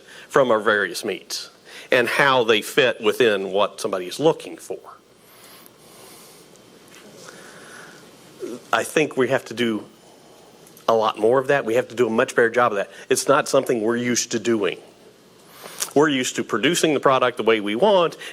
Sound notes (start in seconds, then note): none